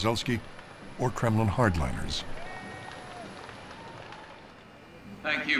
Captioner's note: people cheering in background